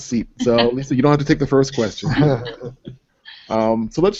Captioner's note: laughter